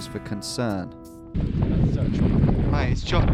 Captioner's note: wind rushing